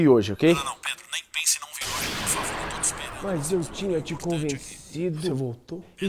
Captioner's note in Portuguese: explosão